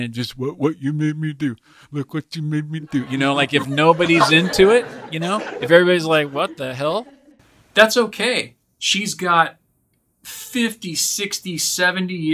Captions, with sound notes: and it just what you made me do. Look what you made me do. You know if nobody's into it. (laughing) If everybody's like what the hell? That's okay. She's got 50, 60, 70 years to put out